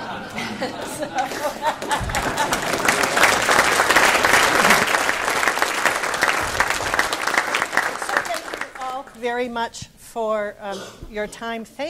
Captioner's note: claps